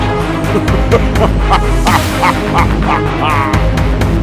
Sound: evil laughing

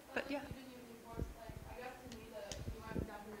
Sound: woman speaking off microphone

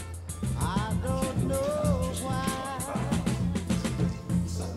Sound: indistinct chatter

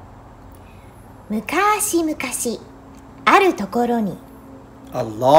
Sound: in Japanese

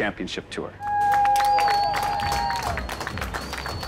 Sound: cheers and applause

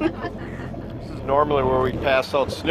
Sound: laughs

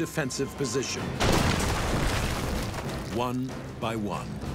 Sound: bomb exploding

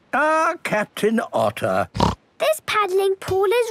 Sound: snorts

